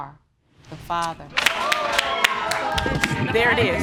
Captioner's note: audience applauding